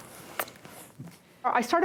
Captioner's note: smooches